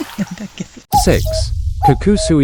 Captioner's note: laughs